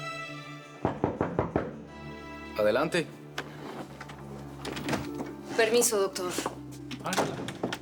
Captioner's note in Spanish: Toques en la puerta